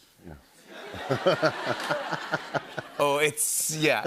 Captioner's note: laughter